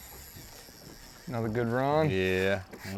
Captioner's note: reel unspooling